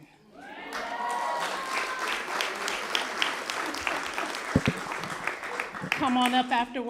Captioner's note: applause